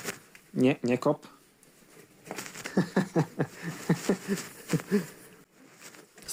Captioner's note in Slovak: smiech